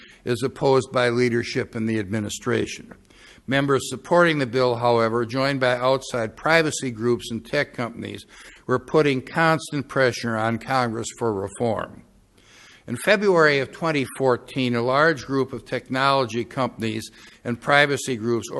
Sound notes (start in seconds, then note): none